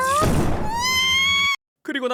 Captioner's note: Screw screams